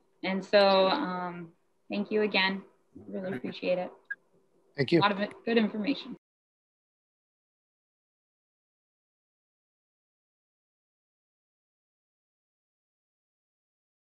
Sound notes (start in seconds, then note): 5.3 no speaking